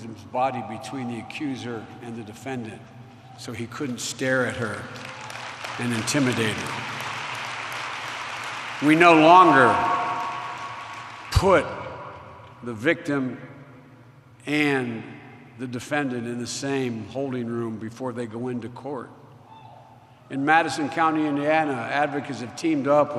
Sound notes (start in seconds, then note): 5.0 applause